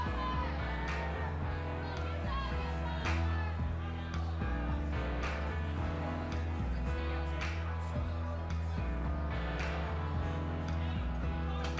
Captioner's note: crowd chatter